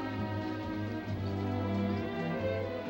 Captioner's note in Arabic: none